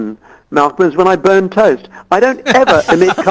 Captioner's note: murmurs